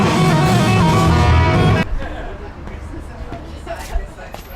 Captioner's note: muffled laughter and chatter